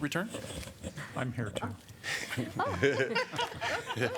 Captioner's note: laughter